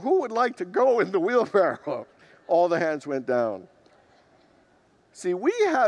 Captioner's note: congregants laugh